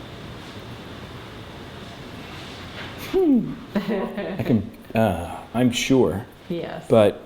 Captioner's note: laughter